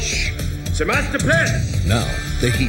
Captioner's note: speaking in German